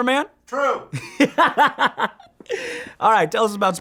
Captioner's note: laughing